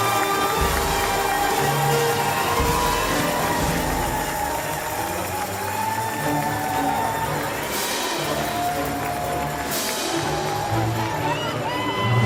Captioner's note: applause and cheers